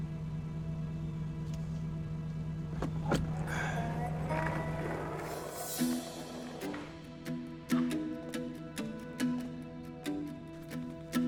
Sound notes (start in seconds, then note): 2.5 skateboard rolling; 2.8 MOVES GEAR SHIFT,</i> <i> SIGHS